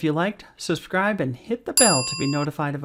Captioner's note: bell dinging